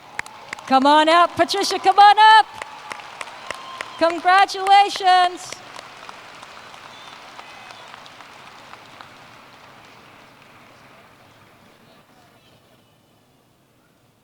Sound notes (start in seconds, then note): 5.3 applause